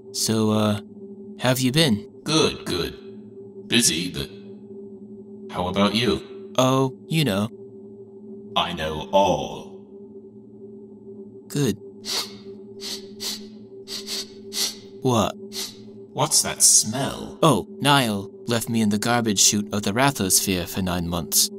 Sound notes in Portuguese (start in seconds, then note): 12.1 Sniffing; 13.9 Sniffs